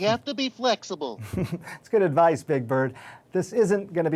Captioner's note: chuckling